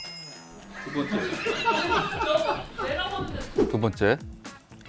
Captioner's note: laughter